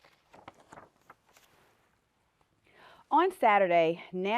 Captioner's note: page turning